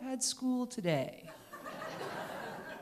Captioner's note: laughter